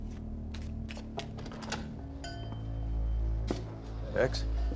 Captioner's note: tapping, shuffling sound; door opens, doorbell clangs